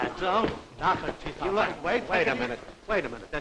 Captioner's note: chatter